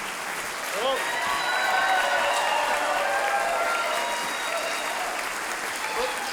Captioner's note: audience clapping; audience cheering; audience clapping